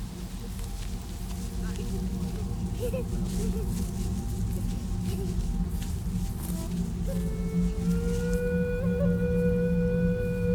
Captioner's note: celtic panpipe music; children laughing